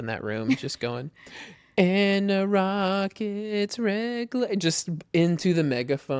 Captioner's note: laughs